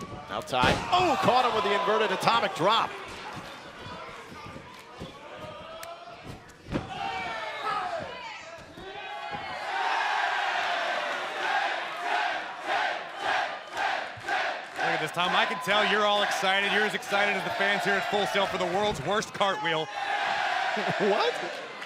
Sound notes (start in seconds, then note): 10.1 cheers and applause; 14.8 fans chanting